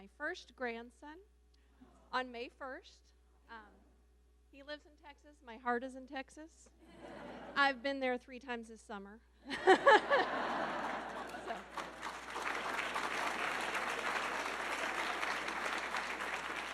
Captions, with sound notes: - I had my first grandson on May 1st. He lives in Texas. My heart is in Texas. (audience laughing) I've been there three times this summer (laughs). (audience laughing) (audience clapping)